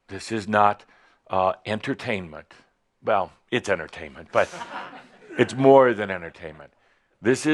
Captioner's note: some chuckles